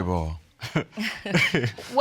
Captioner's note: chuckles